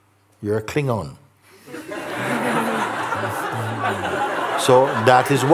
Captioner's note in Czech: smích